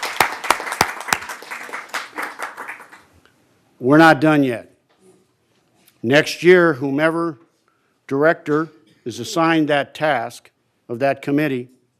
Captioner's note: applause